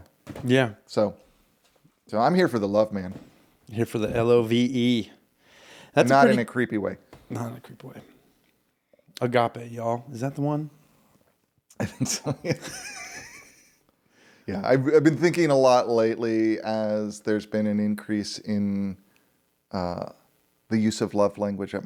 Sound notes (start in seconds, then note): 11.8 laughing